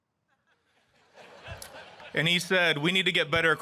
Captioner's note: audience laughing